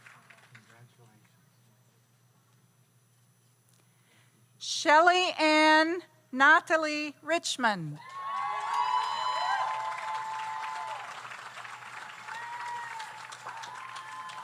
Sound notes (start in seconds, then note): 8.0 audience applauds; 8.0 audience cheers